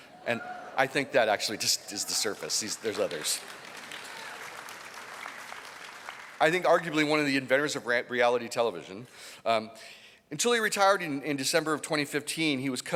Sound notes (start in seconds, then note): 4.0 audience applauding